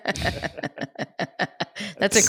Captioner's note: laughs; laughs